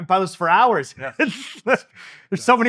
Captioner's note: chuckling